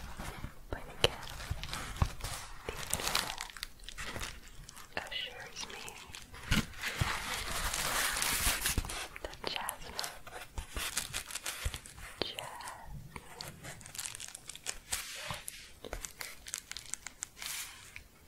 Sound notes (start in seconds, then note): 6.2 shuffling and crinkling; 13.8 gentle crinkling